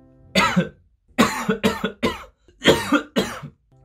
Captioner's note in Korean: 콜록